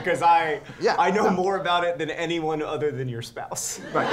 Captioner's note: laughter